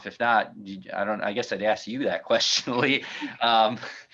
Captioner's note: chuckles